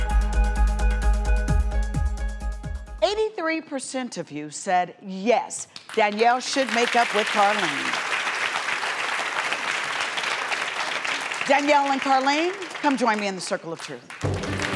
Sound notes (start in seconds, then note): 7.6 applause; 14.2 dramatic music; 14.5 clapping